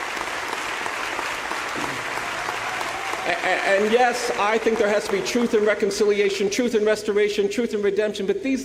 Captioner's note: applause